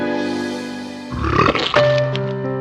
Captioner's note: vomit